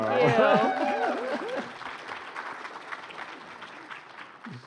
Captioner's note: applause